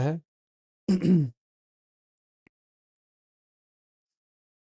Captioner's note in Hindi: गला साफ़ करने की आवाज़